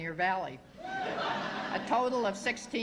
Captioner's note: laughter